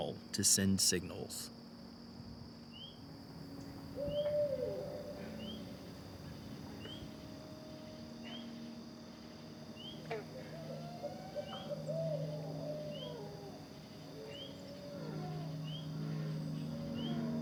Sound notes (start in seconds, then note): 3.9 owl call; 9.8 owl call